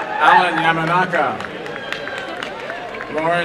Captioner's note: applause